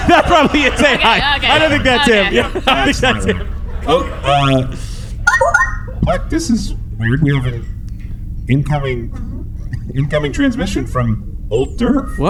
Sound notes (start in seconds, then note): 0.0 laughing; 0.0 laughs; 5.2 incoming transmission beep-boops